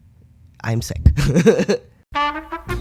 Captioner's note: laugh; hold music